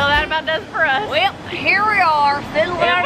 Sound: in Southern accent

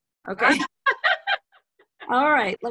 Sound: laughing

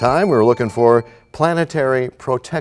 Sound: bell rings, time expires

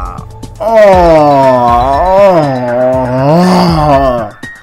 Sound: random groaning

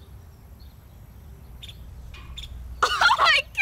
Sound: bird chirping

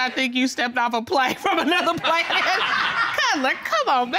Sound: audience laughing

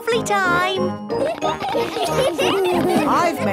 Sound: laughter

